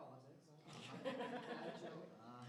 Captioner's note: laughter